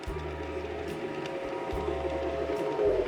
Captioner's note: model train engine whirrs